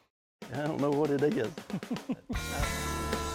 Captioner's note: laughing; upbeat country rock music